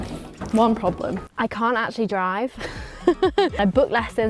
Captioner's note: chuckles